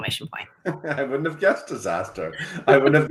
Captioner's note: laughs